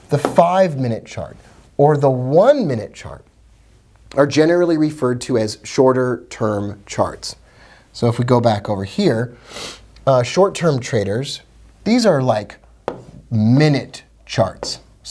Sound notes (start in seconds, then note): 9.4 sniffs